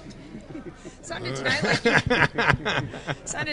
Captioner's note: laugh